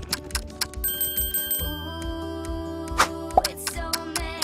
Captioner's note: clock ticking; bell ringing; clock ticking